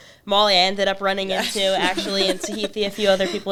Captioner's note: laughs